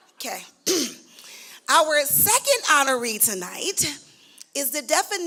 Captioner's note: clears throat